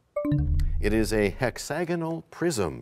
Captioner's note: bell chimes, time expires